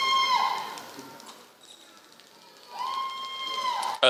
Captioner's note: applause